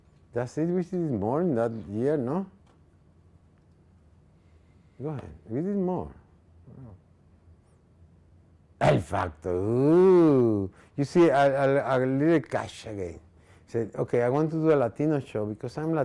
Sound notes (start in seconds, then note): 9.0 speaking in foreign language